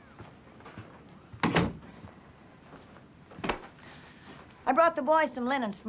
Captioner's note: door thudding